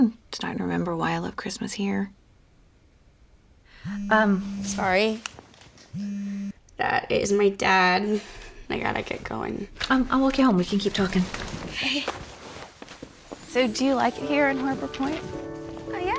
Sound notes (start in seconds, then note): 3.8 phone vibrating